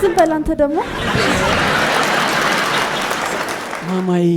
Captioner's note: laughter and applause